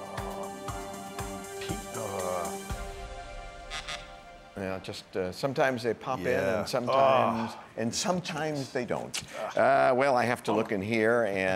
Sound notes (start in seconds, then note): 3.7 buzzer